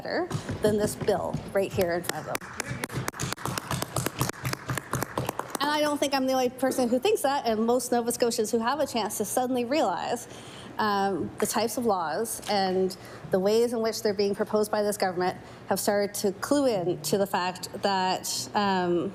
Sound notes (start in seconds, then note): 6.6 applause